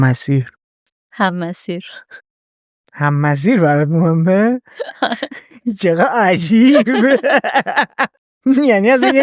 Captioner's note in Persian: خنده